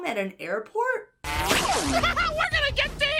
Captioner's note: Sonic whizzing; villain laughs maniacally